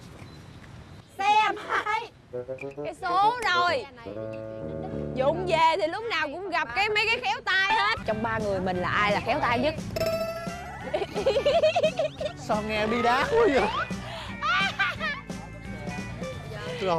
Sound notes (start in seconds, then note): 4.0 mumbling... Complaining